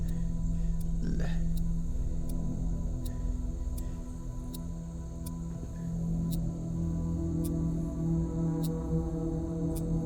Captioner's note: clock ticking